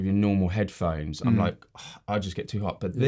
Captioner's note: groans